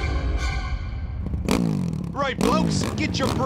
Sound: revving

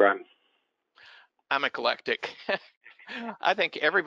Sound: laughs

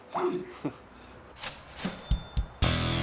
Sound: chuckles; cash register cha-ching; upbeat music

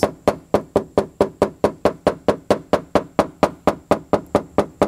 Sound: hammering

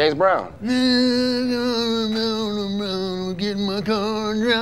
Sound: garbled humming

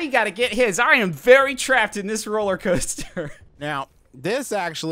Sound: laughs

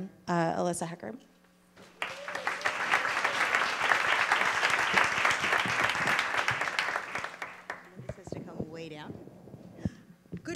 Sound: applause

